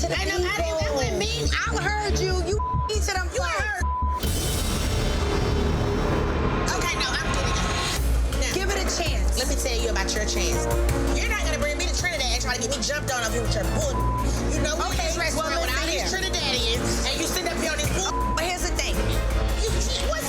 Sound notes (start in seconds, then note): 2.5 beep; 4.9 dramatic instrumental music; 8.3 dramatic instrumental music; 13.9 beep; 17.8 beep